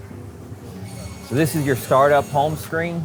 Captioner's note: machine whirring